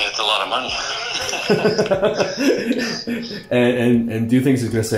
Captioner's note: both laughing